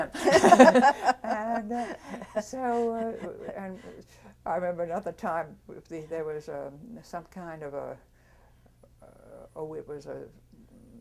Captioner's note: laughter